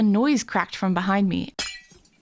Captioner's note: Minecraft glass shattering noise